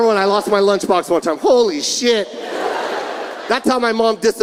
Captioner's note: audience laughing